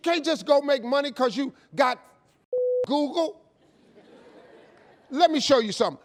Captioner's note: beep